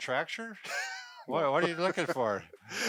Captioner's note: laughing